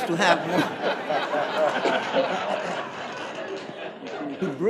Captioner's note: audience laughing